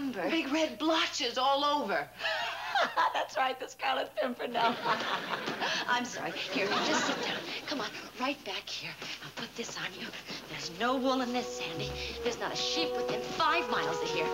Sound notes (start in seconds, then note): 2.0 laughing